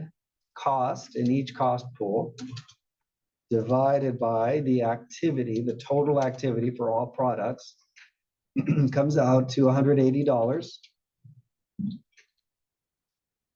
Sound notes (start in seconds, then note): 8.5 cough